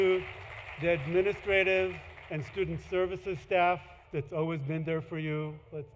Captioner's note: applause; cheering